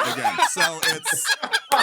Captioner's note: laughing